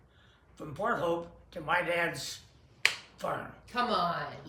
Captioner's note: claps hands